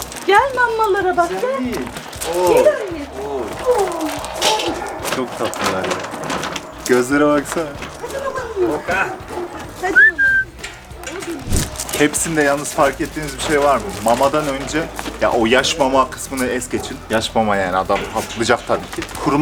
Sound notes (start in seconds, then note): 9.8 whistle